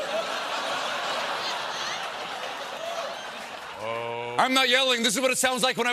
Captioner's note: laughter